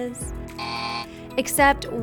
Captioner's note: alarm buzzing